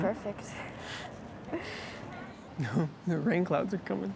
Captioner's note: laughing